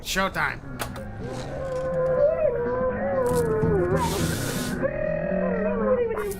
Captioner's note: absolute nonsense noises from the TV